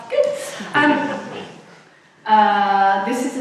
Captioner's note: audience laughs